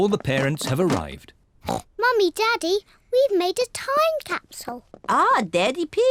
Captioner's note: oinks